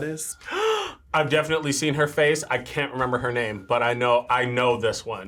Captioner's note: gasps